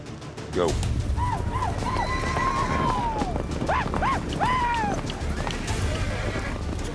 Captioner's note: shouting